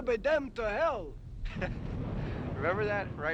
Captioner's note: chuckles